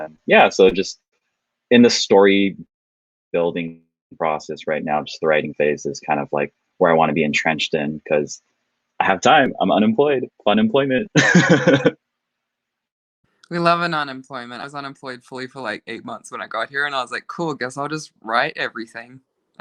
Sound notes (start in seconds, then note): 11.1 laughing